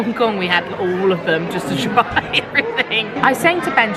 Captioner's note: laughing